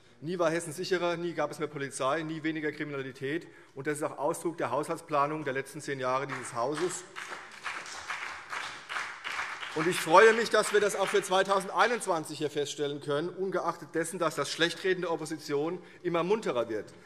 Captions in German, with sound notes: Nie war Hessen sicherer, nie gab es mehr Polizei und nie weniger Kriminalität. Das ist auch Ausdruck der Haushaltsplanung der letzten zehn Jahre dieses Hauses. [Beifall CDU und BÜNDNIS 90/DIE GRÜNEN] Ich freue mich, dass wir das auch für 2021 feststellen können - ungeachtet dessen, dass das Schlechtreden der Opposition immer munterer wird.